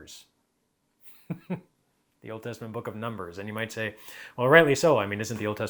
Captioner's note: chuckles